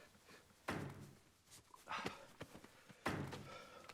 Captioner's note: lee hitting stapler